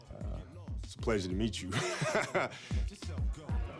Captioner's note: laughs